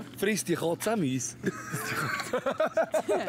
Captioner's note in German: Lacht